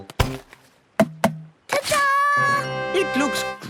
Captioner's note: tapping